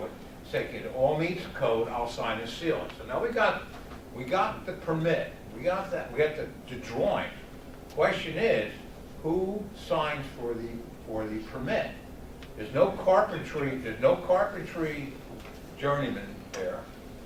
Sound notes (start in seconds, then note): none